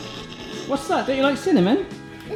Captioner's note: groans